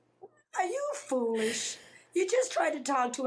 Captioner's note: both laugh